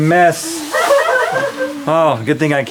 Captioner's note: crew laughs